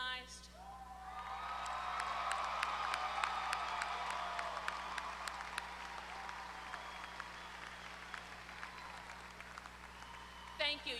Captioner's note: applause